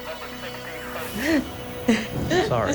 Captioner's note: sobbing